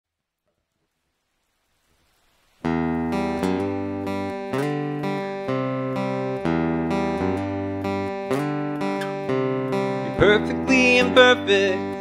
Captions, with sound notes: *soft rain outside* Music You're perfectly imperfect